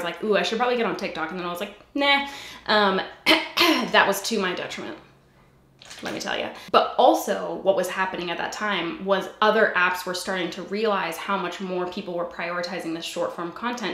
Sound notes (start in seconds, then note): 3.1 clears throat